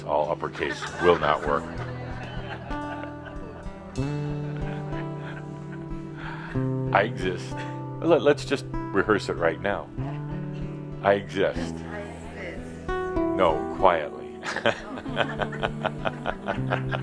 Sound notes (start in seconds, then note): 4.2 laughter